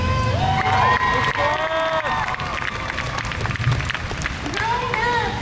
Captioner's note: crowd cheers